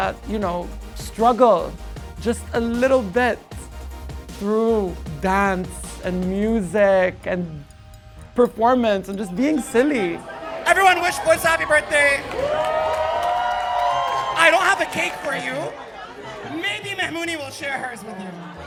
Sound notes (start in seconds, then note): 13.0 people cheering